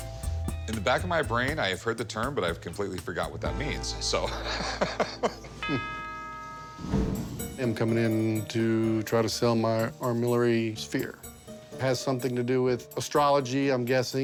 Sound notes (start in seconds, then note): 4.4 laughing; 7.5 voiceover